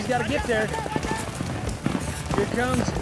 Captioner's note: hoofbeats